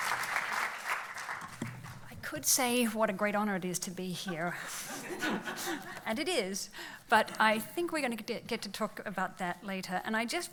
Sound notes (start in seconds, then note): 0.0 applauds; 4.6 laughs